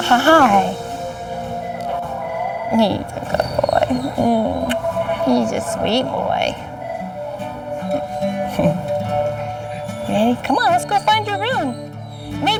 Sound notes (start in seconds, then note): 4.3 smooching; 7.2 slow guitar music